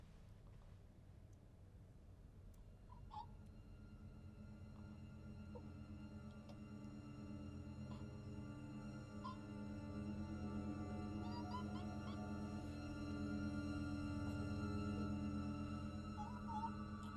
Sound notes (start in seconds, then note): 3.2 dark orchestral music; 11.3 restrained squeals